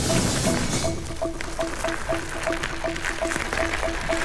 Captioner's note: audience applauding